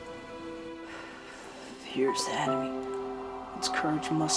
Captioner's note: exhales